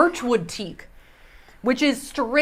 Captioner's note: sniffs